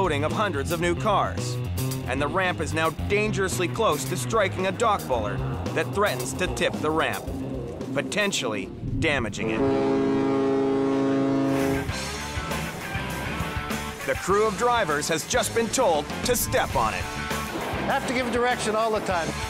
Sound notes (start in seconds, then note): 9.3 ship horn blares